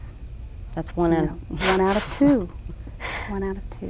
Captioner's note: laughs